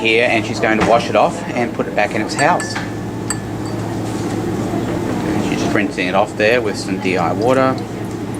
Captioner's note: clinking